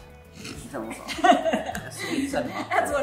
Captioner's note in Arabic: يضحك